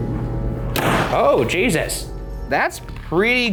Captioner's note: door slamming